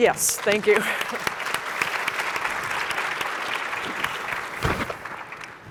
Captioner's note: applause